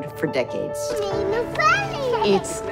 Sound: indistinct chatter

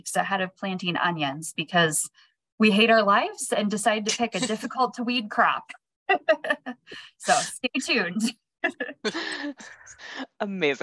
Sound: laugh

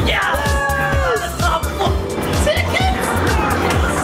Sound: cheering

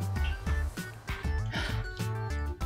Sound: gasp

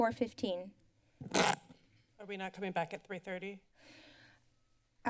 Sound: feedback sound

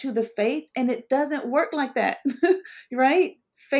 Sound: laughs

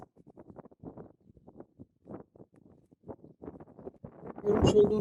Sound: wind sound

